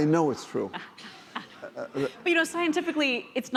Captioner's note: laughing